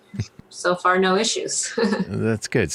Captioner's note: laughs